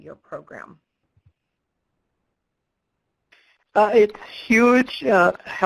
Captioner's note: pause